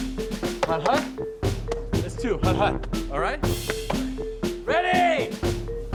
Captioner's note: upbeat music; speaking in foreign language